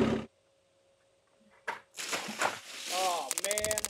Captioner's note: water splashing; board clicking